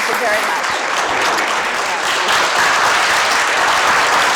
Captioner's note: clapping